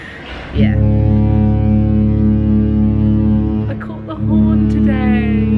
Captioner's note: cruise ship horn blaring